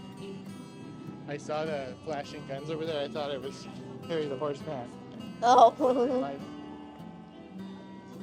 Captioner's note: chuckling